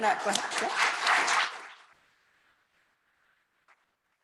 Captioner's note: applause